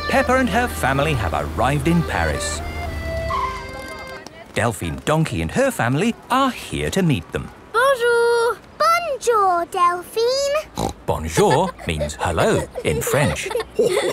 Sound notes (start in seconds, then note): 10.7 snorts